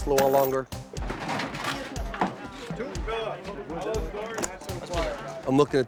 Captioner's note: background chatter